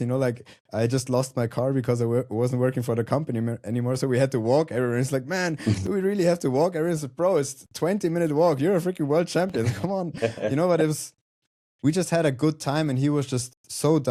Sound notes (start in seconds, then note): 5.6 chuckles; 9.5 chuckles